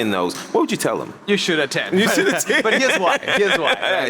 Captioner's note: laughs; laughing continues; laughs